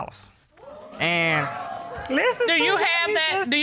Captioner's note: audience exclaiming